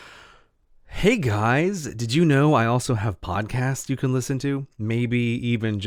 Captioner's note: sigh